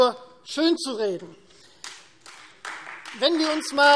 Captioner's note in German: Beifall Freie Demokraten